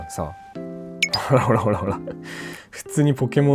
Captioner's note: laughs